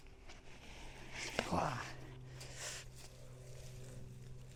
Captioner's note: grunts